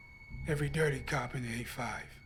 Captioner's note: none